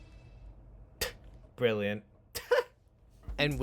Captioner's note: snickers